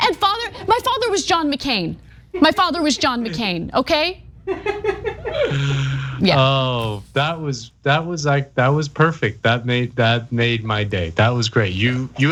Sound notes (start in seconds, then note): 5.0 laugh